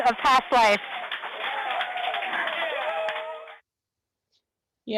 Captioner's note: cheers